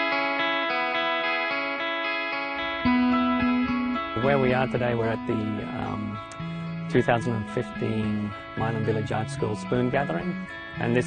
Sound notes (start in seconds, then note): 4.1 voiceover